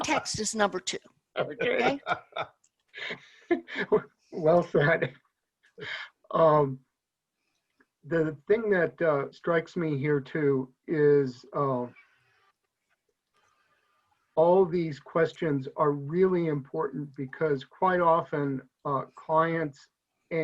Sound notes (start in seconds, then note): 1.4 laughs